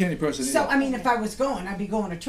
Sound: voiceover

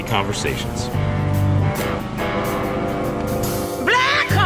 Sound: engine boat roaring; whoo

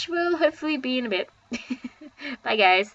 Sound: chuckles

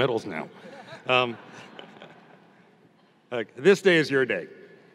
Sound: audience laughing

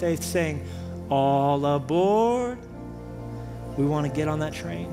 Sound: none

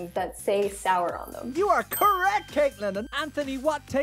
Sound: bell dings

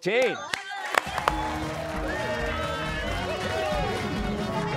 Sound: cheers and applause

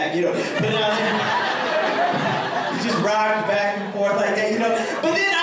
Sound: laughter

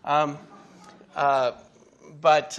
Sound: audience laughing

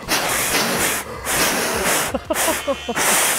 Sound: blowing

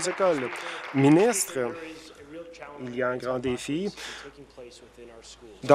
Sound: applause

